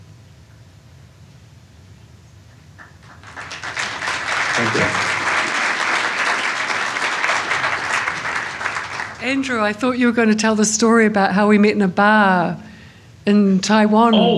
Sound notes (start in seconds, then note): 2.8 applause